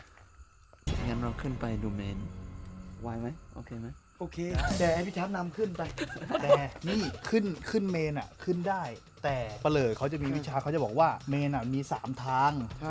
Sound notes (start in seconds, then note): 4.5 laughs